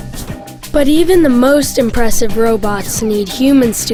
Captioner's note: voiceover